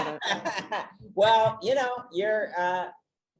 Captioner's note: laughs